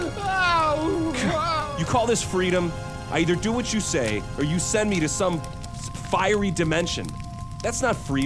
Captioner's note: scoffs